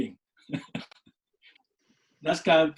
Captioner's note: laughs